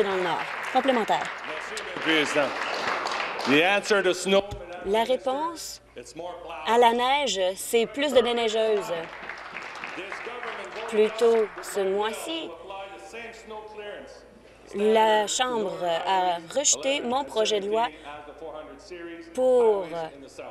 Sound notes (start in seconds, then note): 2.2 applause; 5.3 speaking in French